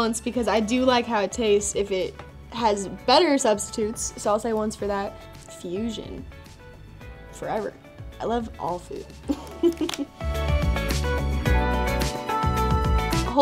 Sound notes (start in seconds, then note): 9.3 laughs; 10.3 groovy, chill music